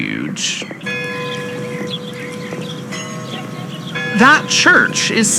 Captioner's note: clock bells of St. Louis' chime